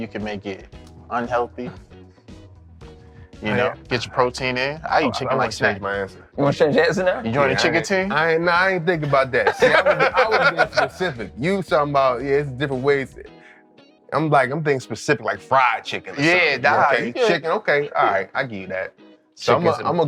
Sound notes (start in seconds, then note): 1.8 chuckling; 10.3 laughing